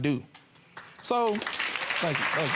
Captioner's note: clapping